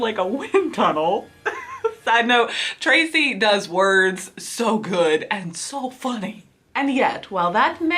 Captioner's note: laughs